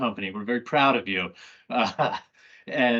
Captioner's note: laughs